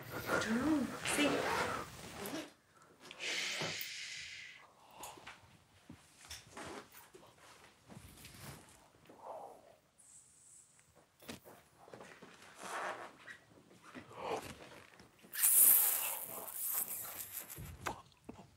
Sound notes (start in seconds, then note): 1.2 bag unzipping; 3.2 group quietly gasping